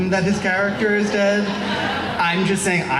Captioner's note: laughing